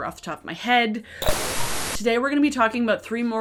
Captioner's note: static buzzes